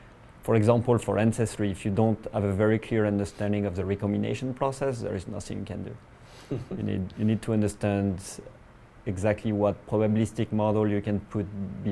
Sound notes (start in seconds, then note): 6.5 laugh